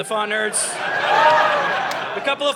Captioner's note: audience laughing